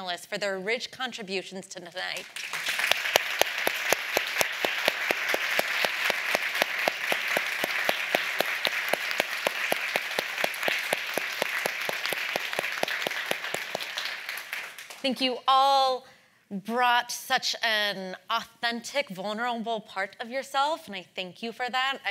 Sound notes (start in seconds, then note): 2.4 all applauding